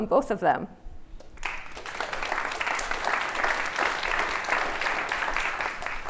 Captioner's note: applause